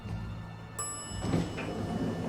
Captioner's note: elevator dings